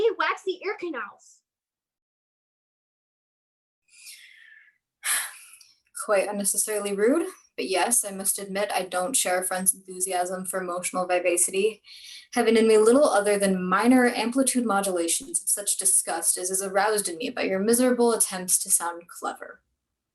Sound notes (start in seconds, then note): 4.0 sigh